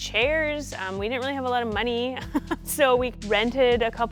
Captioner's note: chuckling